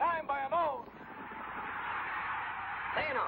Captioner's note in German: applaus